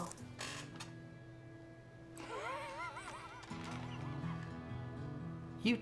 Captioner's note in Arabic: ضحك